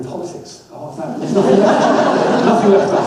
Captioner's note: audience laughs